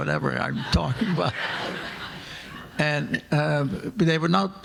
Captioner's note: audience laughing